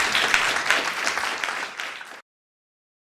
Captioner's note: applause